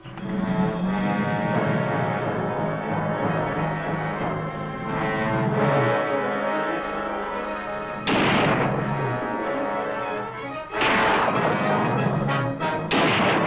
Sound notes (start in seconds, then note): 0.3 suspenseful music; 8.0 gun firing